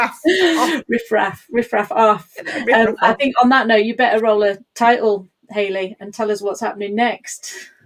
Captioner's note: laughs